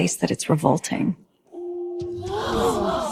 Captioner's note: crowd gasps